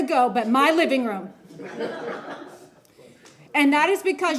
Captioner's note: laughter